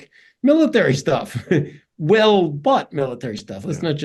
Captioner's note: laugh